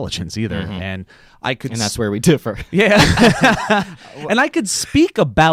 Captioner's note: laughs